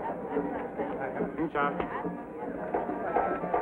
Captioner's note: speaking foreign language